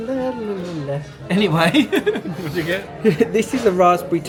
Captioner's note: laughs